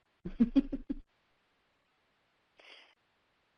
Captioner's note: chuckles